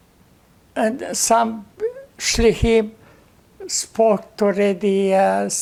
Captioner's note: hebrew